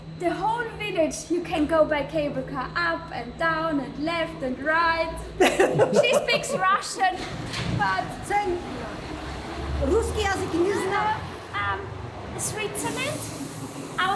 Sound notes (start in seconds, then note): 0.0 in Georgian; 5.4 laughing; 9.7 speaking Russian